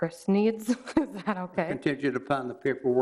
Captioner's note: laughs